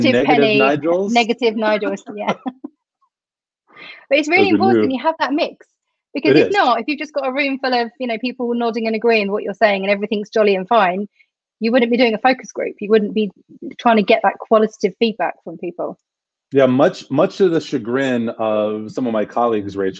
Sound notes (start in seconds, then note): 2.1 laughter